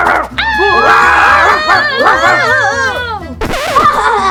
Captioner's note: screaming; dogs barking; laughs